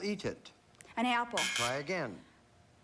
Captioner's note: buzz buzz